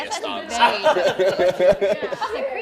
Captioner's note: laughter